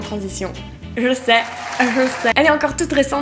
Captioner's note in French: sous fond d'applaudissements